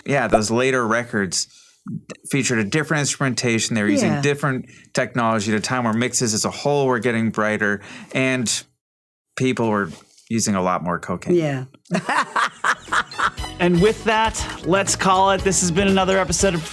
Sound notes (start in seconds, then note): 11.9 laughs